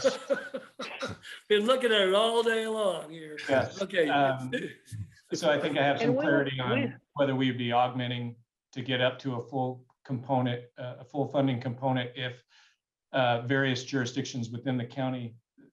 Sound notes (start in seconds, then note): 3.0 laughter